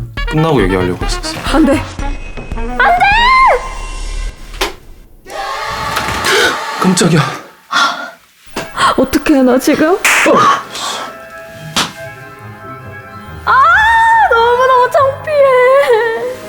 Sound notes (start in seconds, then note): 7.7 gasp